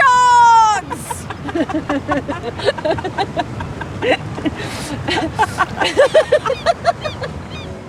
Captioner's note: laughing